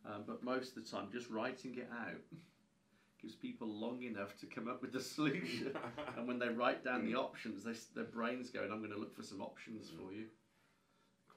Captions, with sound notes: But most of the time just writing it out, gives people long enough to come up with the solution. (both laughing) And when they write down the options, there's the brain's going I'm gonna look for some options for you.